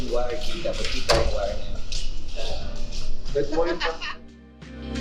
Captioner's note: laughs